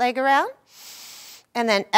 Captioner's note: inhaling